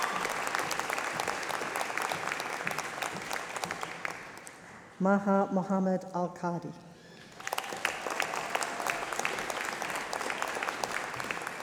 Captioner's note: applause